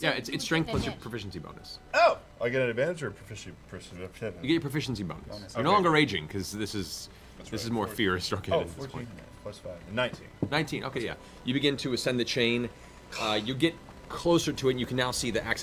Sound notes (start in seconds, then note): none